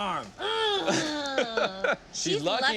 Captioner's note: grunting